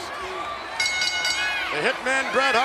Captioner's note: bell rings